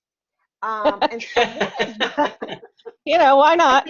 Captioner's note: laughing